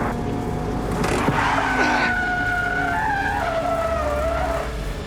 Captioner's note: tires screeching